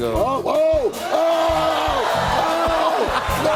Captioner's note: cheers and applause